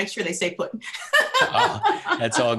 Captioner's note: laughing